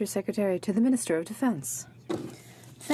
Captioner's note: speaking in french